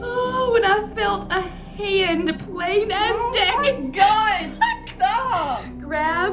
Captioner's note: laughter